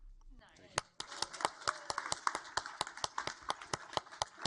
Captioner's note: audience applaud